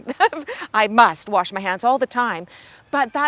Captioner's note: chuckling